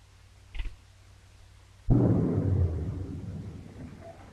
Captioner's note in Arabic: نقرة الأصفاد